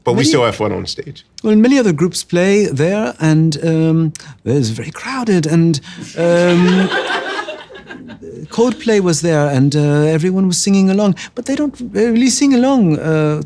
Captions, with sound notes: - But we still had fun on the stage. - Well, and many other groups play there, and it was very crowded, (audience laughing) and Coldplay was there, and everyone was singing along, but they don't really sing along sometimes